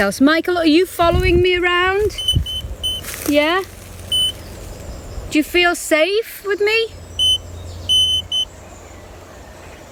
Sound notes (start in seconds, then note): 2.0 beeping; 4.1 beep; 7.9 beep